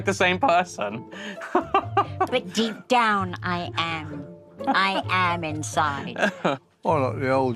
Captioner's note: Jack laughs